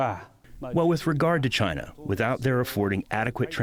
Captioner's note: through translator